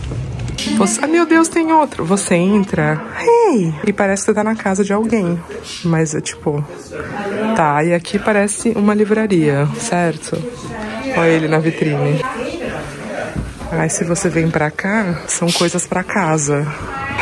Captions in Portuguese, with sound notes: Ai, meu Deus, tem outro. Você entra… Hey! E parece que você tá na casa de alguém, mas é, tipo… Tá, aí aqui parece uma livraria, certo? Olha ele na vitrine. [conversas distantes] Aí se você vem pra cá, são coisas pra casa.